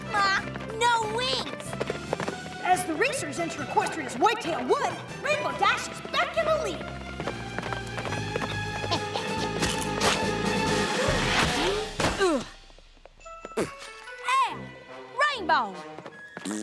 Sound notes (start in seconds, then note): 8.8 chuckles; 13.5 grunts